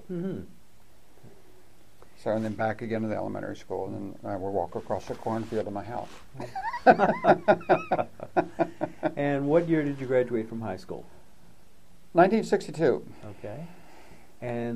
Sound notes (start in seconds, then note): 6.4 laughs